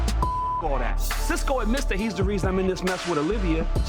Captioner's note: beep